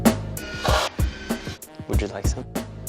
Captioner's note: machine whirs